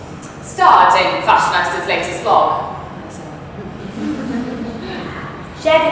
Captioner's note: audience chuckles